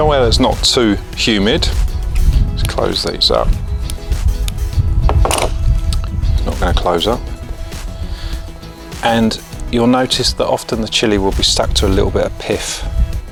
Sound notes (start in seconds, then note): 5.1 tool clunking on table